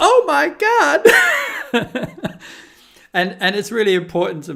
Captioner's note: chuckling